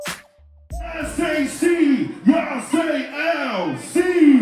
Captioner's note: voiceover